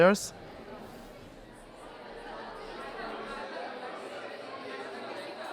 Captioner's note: crowd chatters